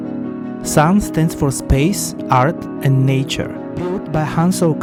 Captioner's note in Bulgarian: на английски